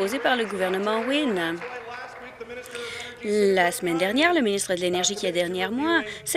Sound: applause

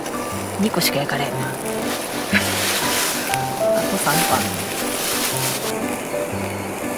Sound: laughs

